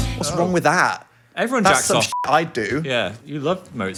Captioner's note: beep